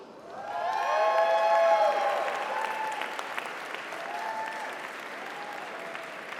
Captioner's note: audience applauds; audience cheers